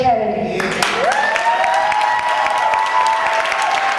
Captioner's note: audience applause and cheers